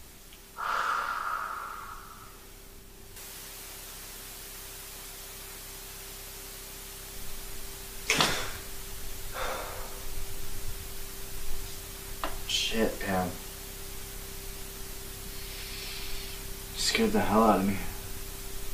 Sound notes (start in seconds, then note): 0.6 Mason sighs; 2.2 static from TV; 9.3 Mason gasps